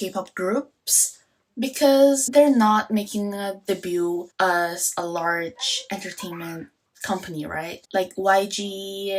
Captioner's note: Korean